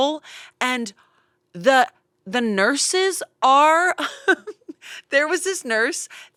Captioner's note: laughing